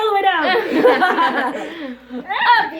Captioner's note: all laugh